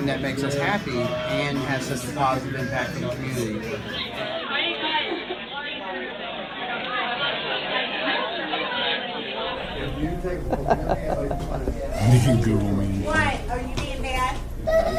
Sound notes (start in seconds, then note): 4.0 crowd chattering; 9.7 chuckles